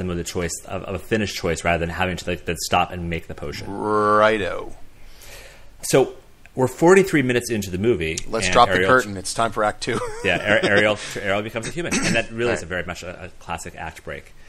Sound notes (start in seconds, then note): 9.9 laughs